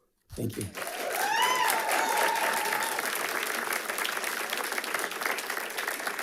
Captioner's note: audience cheering and applauding